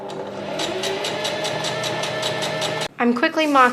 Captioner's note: sewing machine surges